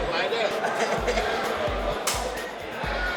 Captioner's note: inmates laughing